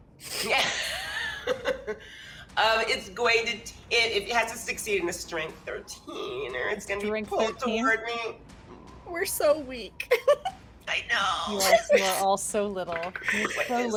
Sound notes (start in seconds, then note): 0.4 laughs; 11.6 giggles